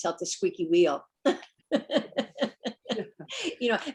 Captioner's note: laughs